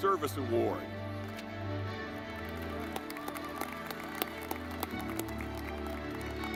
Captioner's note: dramatic music; audience clapping